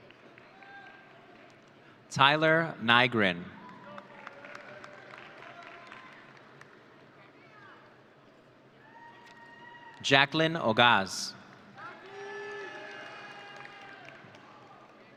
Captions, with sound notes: Tyler Nygren. (audience applauding) Jacklyn Ogaz. (audience cheering)